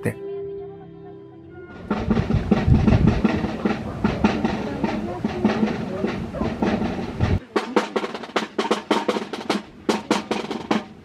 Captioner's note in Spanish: sonido de tropas